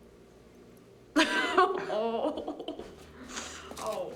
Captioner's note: laughs, Groans